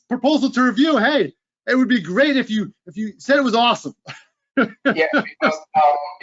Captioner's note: laughs